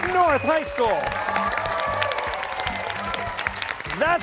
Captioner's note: cheers and applause